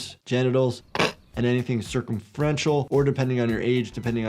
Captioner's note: person snorts